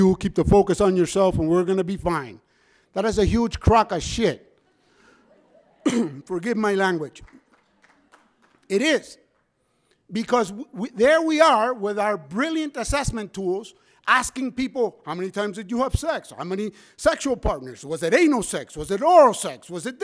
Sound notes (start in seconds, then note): 4.6 audience members laugh; 6.9 scattered clapping